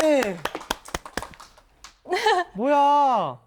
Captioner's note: clap clap clap